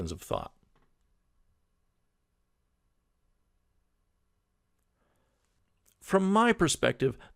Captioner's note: pause